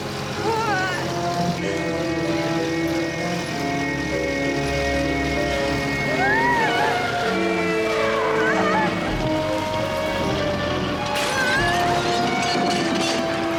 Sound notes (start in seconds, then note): 2.4 car horn blaring; 6.2 Lilly gasps; 6.2 tense music; 10.4 suspenseful music